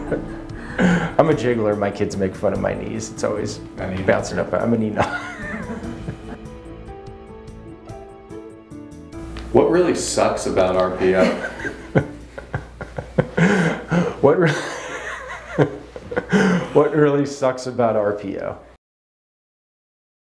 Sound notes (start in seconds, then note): 0.6 laughs; 5.0 laughs; 13.8 laughs